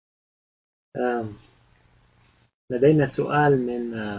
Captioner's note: speaking Arabic